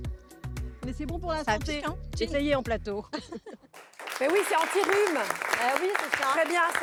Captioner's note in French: applaudissements